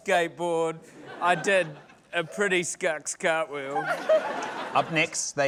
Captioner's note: laughter